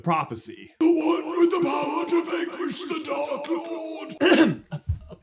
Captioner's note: Trelawney voice; ahem